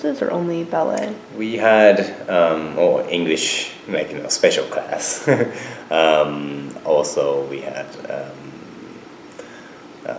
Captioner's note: chuckles